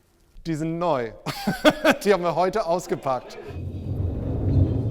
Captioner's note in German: lacht